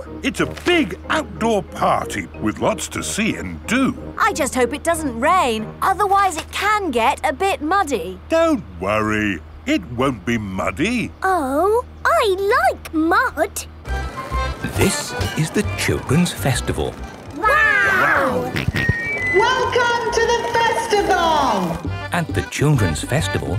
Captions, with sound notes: - It's a big outdoor party, with lots to see and do! - I just hope it doesn't rain. Otherwise, it can get a bit muddy. - Don't worry. It won't be muddy. - Oh! I like mud! - This is the Children's Festival. Wow! - (on microphone) Welcome to the Festival! (jolly folk music) - At the Children's Festival,